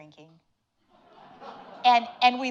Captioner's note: audience laughing